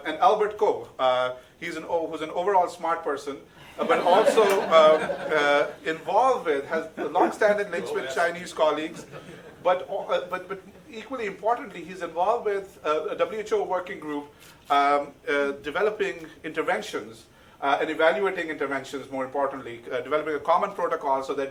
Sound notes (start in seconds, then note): 8.8 audience laughing